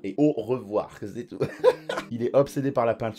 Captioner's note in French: rires